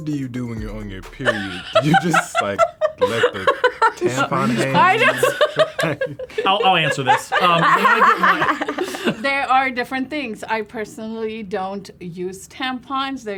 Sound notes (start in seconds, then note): 5.3 laughs; 8.3 all laugh